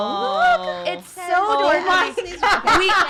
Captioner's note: laughing